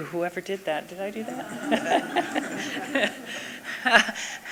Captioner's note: laughs